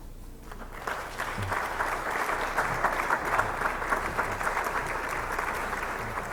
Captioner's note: applause